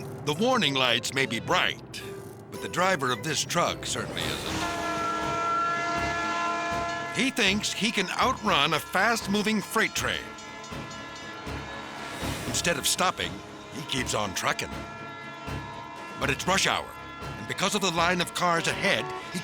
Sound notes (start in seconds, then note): 5.5 train horn blares